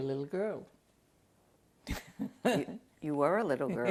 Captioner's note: laughs